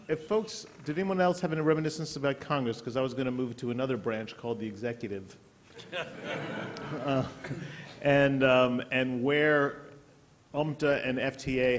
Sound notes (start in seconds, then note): 5.7 laughter